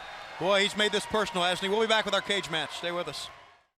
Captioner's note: crowd chatter